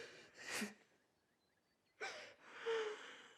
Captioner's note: both crying